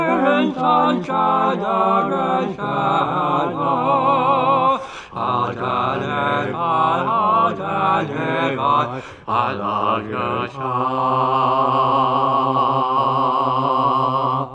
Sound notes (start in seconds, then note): 4.8 collective gasp; 8.9 collective gasp